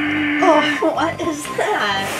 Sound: spooky noise

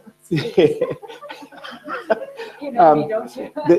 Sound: laughing

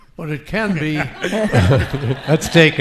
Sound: audience laughing

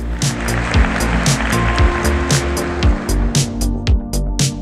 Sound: audience applauding

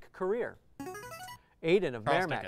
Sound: player buzzer

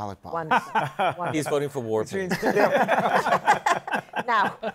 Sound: laughter

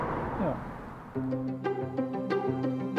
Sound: moving sounds

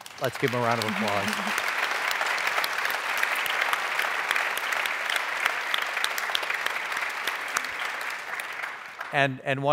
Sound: applause

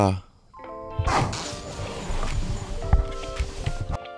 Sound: zipper zips; tranquil music

